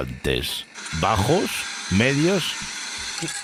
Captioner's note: coffee machine sounds